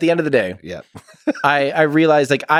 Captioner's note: Lex laughs